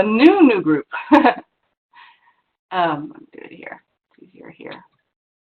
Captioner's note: laughs